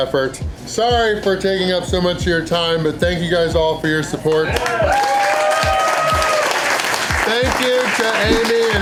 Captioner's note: applause